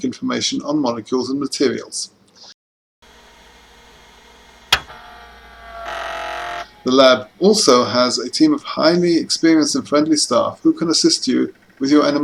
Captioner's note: click, hard-disk retraction noise